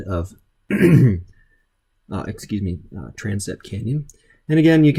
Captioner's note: clears throat